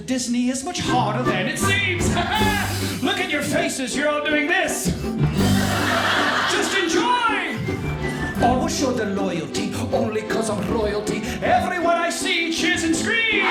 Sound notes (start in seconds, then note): 5.3 audience laughing; 13.2 audience cheering